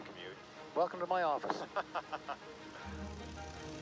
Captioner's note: laughs